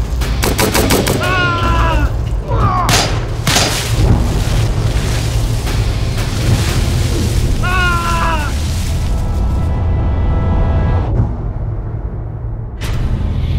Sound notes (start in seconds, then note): 3.4 suspenseful music; 7.6 man screaming; 10.5 suspenseful music